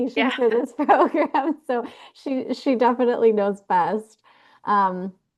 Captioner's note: laughter